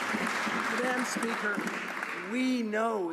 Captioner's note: some Applause